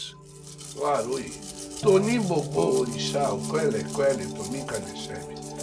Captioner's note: speaks in Yoruba